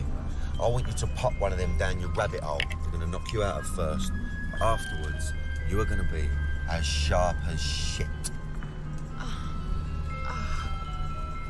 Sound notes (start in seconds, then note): 8.5 moans